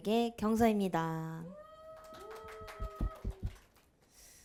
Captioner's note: clapping